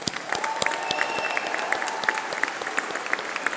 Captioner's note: applause